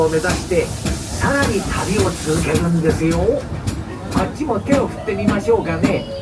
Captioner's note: announcer speaking Japanese